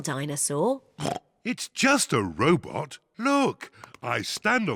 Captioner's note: oinks